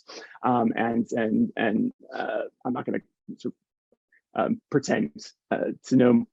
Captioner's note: chuckles